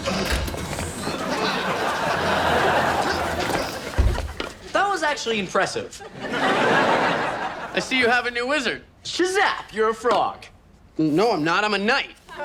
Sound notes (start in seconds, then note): 5.9 audience laughs